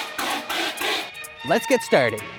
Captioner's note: fire extinguisher spraying